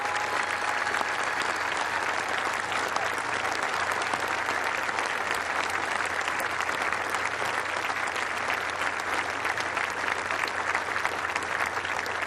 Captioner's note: cheers and applause